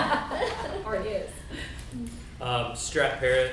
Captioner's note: laughing; group chatter